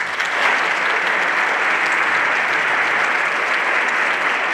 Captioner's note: everyone applauding